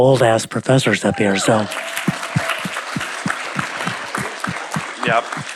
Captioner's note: audience applauding